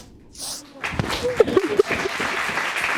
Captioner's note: both sobbing